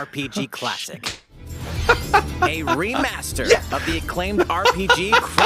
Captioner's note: laughs